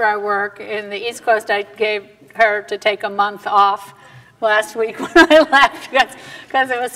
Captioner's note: laughter